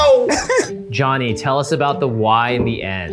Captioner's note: laughs